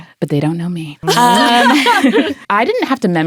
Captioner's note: people laughing